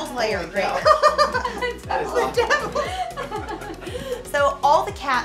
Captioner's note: laughs